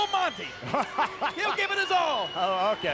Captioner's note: laugh